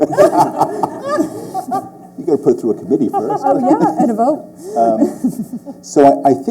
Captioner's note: laughter